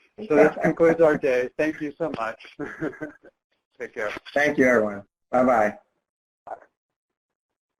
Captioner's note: chuckles